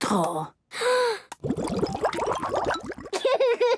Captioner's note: water bubbling